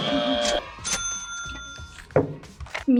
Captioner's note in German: ka-tsching; Buzzer richtig